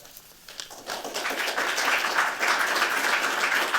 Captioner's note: applause